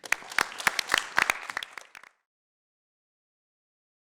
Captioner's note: applause